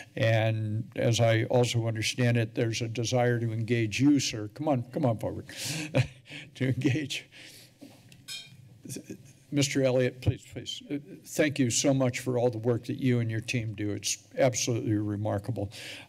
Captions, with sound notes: and as I also understand it, there's a desire to engage you, sir. Come on, come on forward [chuckles] to engage. Mr. Elliot, please-, please, thank you so much for all the work that you and your team do. It's absolutely remarkable.